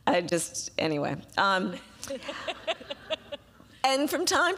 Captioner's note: laughter